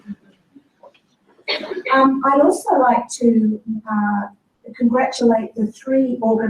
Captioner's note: laugh